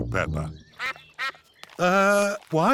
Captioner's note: sucks quacking